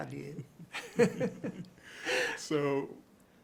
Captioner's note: both chuckling